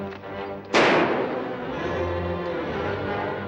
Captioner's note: gunshots